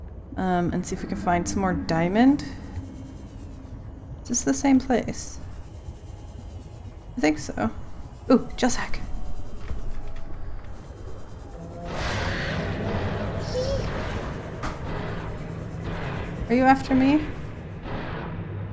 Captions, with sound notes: Um and see if we can find some more diamond. Is this the same place? I think so- oh gel sack! *loud creature sounds and panicked 'eeh'* Are you after me?